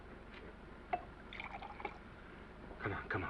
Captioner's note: scotch sloshing